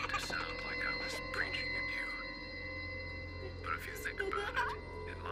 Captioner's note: girls laugh